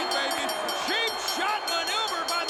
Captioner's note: bell ringing